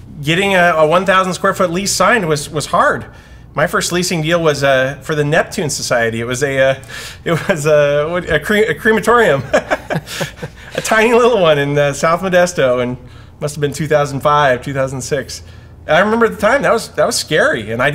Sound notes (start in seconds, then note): 9.2 both laugh